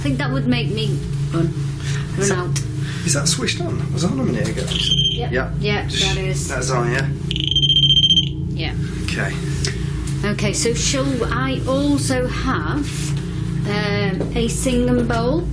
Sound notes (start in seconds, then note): 9.2 beeping